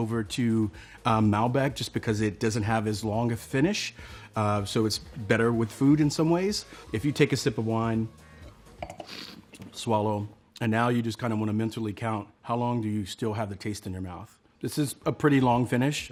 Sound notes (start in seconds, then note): 8.8 slurps and swishes wine